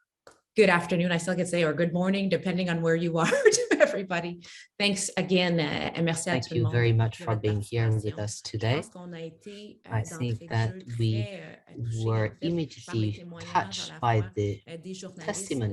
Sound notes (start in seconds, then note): 3.2 chuckles; 5.7 speaks French